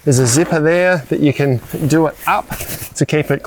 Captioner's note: fabric hissing; zipper squeals; zipper squealing